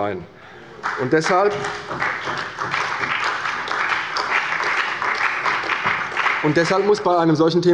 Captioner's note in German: Beifall bei der CDU und dem BÜNDNIS 90/DIE GRÜNEN